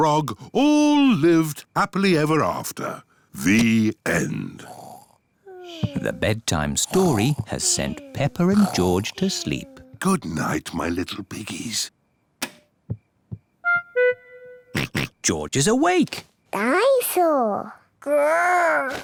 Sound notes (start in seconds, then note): 4.2 both snore; 12.4 light switch clicks; 14.7 oinks